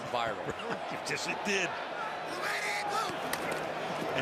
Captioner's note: laughs